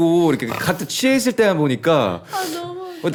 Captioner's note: someone's swallowing their snort